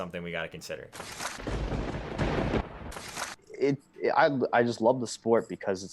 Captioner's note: lightning crashes